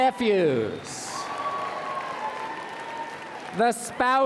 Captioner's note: applause and Cheering